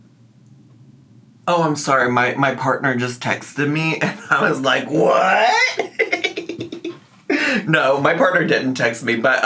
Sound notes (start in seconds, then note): 6.6 laughs